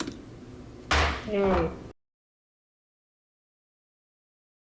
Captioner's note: gavel banging